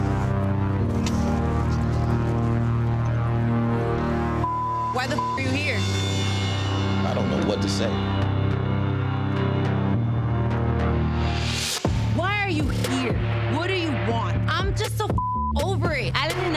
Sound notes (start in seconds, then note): 0.1 anxious electronic music; 4.4 beep; 8.9 anxious electronic music; 15.1 beep